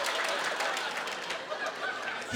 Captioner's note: applause